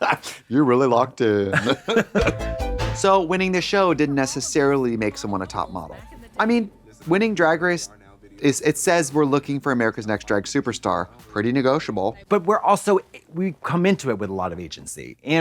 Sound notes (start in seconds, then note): 2.2 bright chime